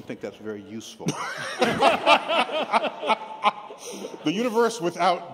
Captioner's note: laughter